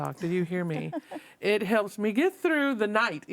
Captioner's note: panelists laughing